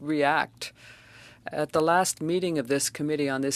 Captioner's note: speaking French